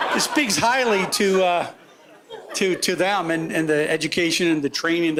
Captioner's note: laughter